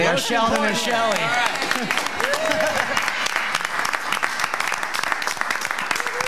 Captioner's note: audience cheering and clapping